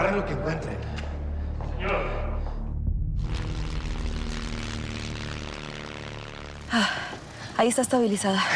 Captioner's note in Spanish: Sighs